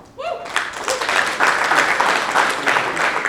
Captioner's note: clapping